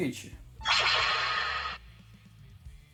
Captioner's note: anime noise